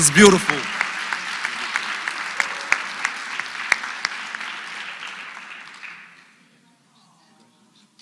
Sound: applause

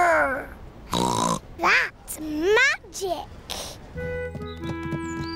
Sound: snorts

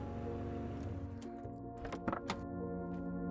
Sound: engine Shuts Off

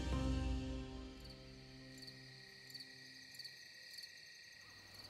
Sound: insects chirping

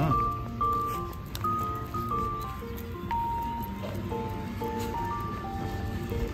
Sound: laughs

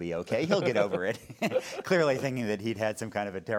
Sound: laughing

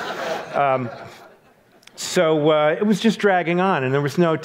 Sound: audience laughs

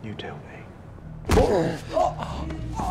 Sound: groans

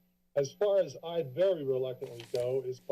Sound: paper rustling

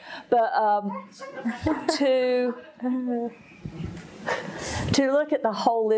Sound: audience laughing

